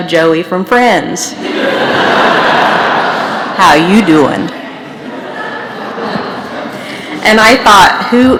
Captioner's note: laughter